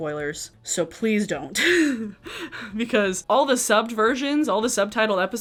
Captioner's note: laughs